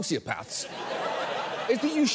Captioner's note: audience laughs